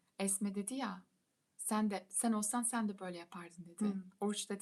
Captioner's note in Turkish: boğazını temizler